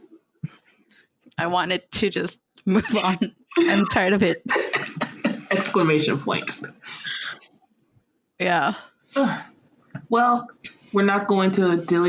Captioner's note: laughter